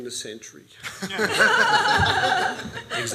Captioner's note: laughs